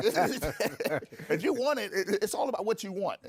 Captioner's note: bursts of laughter